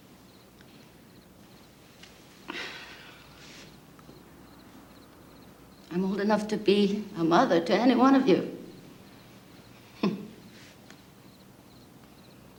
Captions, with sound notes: [sighs] I'm old enough to be a mother to any one of you. [chuckles] Maybe even your grandmother.